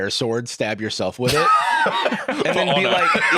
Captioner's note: laughs